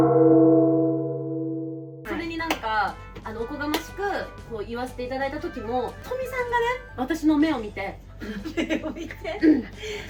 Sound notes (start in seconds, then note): 8.3 laughs